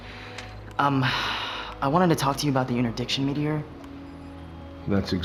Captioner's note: exhale